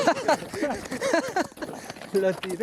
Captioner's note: laughts